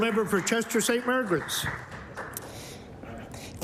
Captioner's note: applause